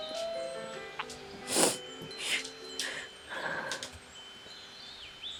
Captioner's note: Sarah sniffles